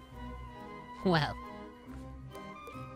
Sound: SpongeBob Voice

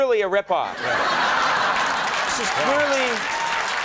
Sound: laughter

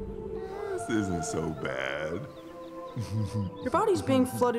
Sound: giggle

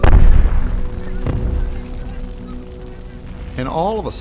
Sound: explosions rumbling; fires crackling; crowd chattering

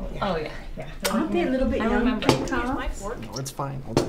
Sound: excited conversation

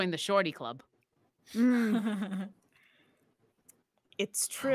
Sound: giggling

